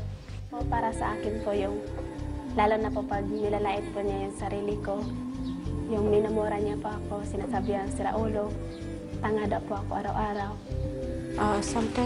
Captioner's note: speaking Foreign Language